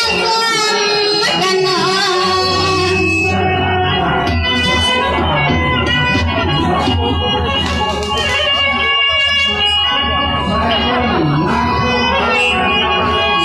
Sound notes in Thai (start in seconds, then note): 4.6 ปรบมือ